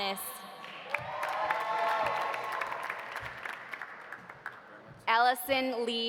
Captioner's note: audience applauding; audience cheering